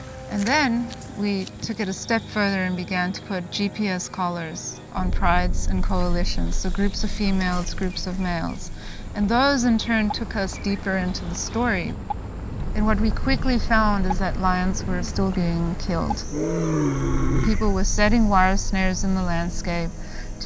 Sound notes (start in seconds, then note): 16.3 lion roaring